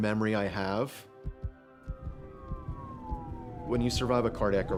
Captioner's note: sirens blaring